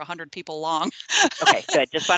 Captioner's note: laughing